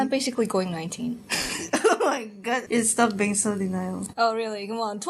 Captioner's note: laughs